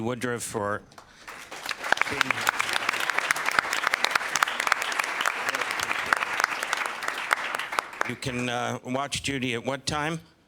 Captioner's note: applause